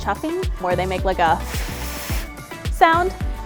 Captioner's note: blows